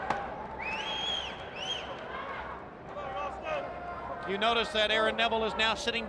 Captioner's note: crowd chatter